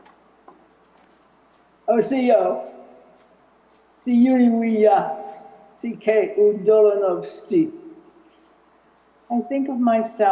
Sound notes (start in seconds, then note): 1.2 non-english